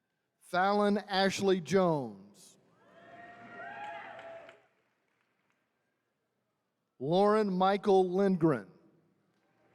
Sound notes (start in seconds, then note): 2.9 attendees cheering